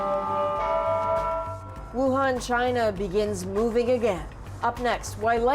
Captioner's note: bells tolling